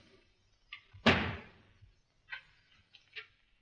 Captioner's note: bang